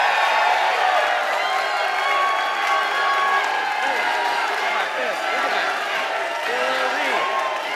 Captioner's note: abundance of cheering